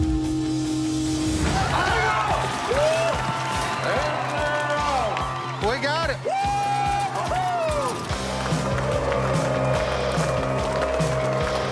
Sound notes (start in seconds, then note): 0.8 yelling